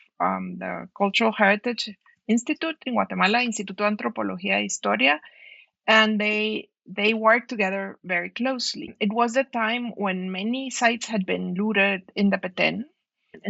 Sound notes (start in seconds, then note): 4.1 non-english speech